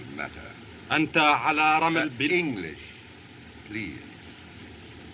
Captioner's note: speaking Native Language